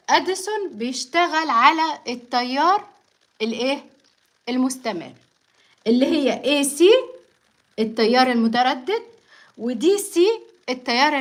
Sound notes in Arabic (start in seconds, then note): none